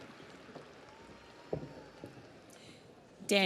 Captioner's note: audience applauds